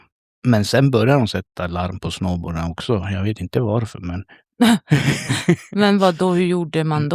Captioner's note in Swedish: skratt